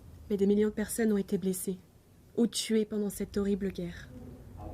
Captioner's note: speaks in foreign language